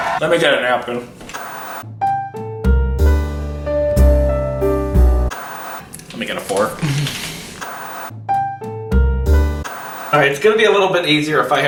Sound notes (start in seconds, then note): 0.0 gloating; 0.0 people cheering; 1.2 static crackling; 2.3 upbeat music; 5.3 static crackling; 9.3 upbeat music